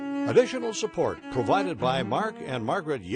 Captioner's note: voiceover